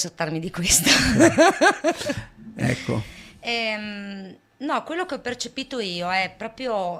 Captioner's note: laughs